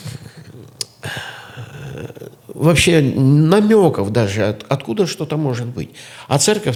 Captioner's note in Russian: откашливается